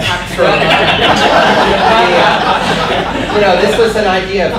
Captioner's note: audience laughter